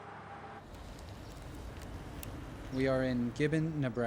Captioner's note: birds chirping